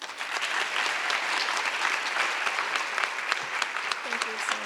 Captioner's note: audience applause